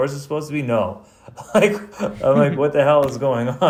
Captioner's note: laughs